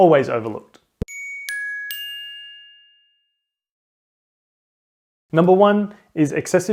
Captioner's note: chime